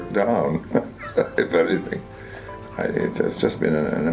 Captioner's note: laughs